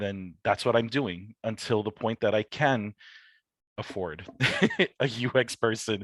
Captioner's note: chuckles